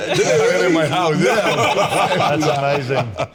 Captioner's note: all laughing